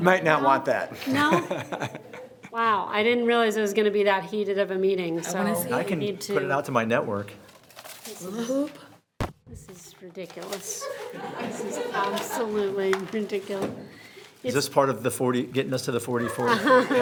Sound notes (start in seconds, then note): 10.7 audience laughing; 16.0 members laughing